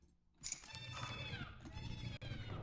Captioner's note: distorted maneater cry